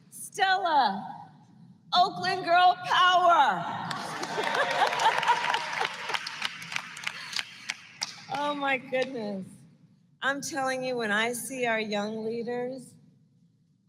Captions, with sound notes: Stella -- Oakland girl power! (Laughs.) (Applause.) Oh, my goodness. I'm telling you, when I see our young leaders,